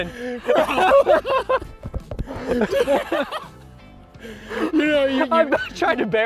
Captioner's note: both laugh hysterically